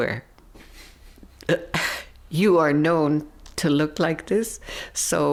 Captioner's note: laughing softly